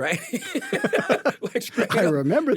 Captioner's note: both laughing